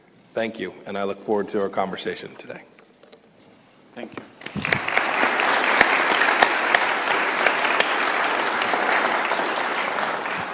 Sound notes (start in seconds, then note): 4.4 applause